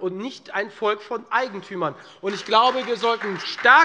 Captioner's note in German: Beifall Freie Demokraten